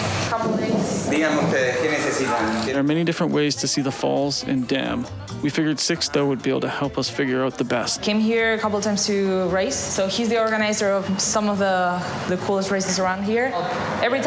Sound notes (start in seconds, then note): 1.8 speaking In Foreign Language